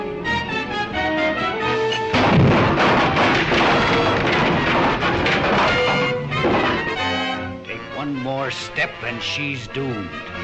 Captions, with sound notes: (fist thuds) (door clatters) Take one more step and she's doomed.